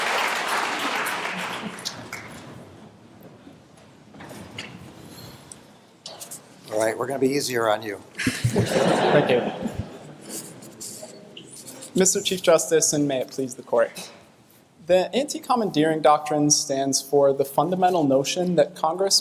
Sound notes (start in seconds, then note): 8.2 laughter